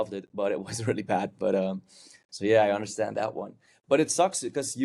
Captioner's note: chuckles